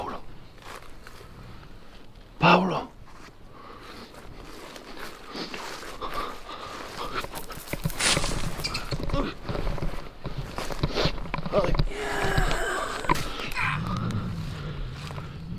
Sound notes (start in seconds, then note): 8.4 running footsteps, beastly growl